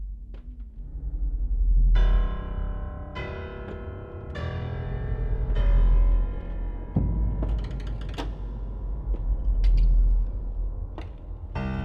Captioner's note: footsteps; ominous music continues